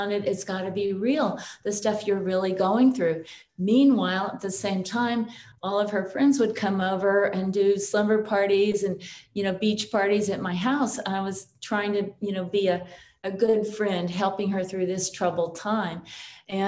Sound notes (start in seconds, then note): none